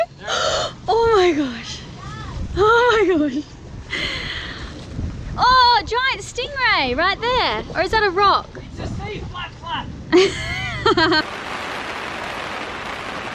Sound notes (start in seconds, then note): 2.1 gasps; 10.1 laughing